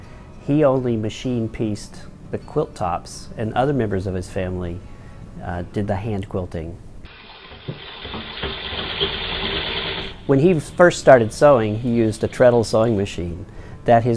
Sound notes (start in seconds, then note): 7.1 sewing machine sounds